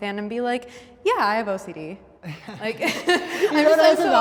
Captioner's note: chuckles